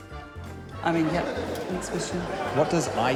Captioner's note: laughter